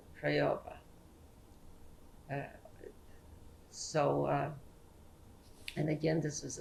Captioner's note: pauses for 3 seconds